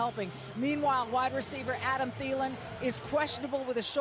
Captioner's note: cheering